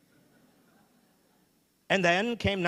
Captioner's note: audience laughing